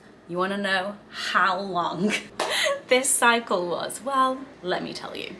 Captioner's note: claps